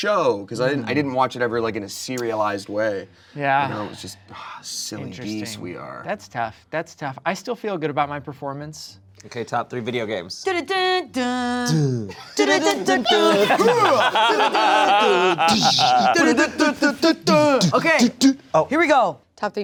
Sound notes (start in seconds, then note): 10.4 hum; 13.7 laughs